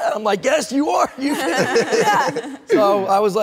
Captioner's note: everyone laughs